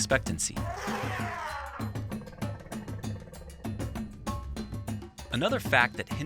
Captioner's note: elephant trumpeting and upbeat music continues